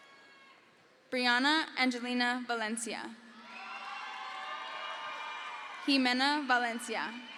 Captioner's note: crowd cheers